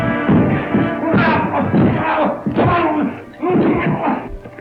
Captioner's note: Slade cries out